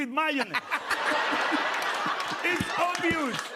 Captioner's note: laughter